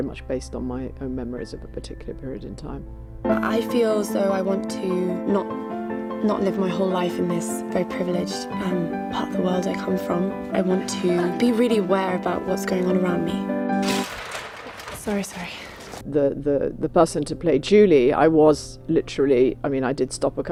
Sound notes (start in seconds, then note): 13.9 spotlight clatters